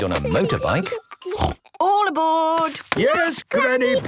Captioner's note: snort